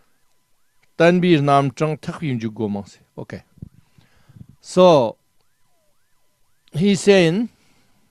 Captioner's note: tibetan